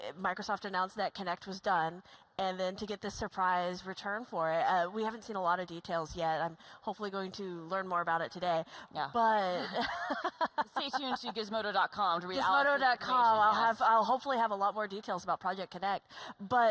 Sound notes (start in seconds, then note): 9.6 laughs